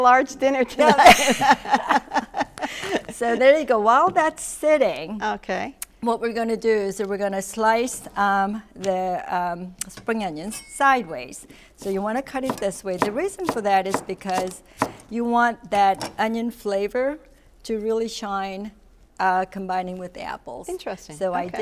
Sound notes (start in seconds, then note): 0.7 laughs